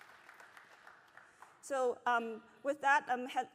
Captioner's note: applause